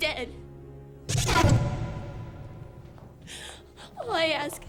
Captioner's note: rapid startling swooshes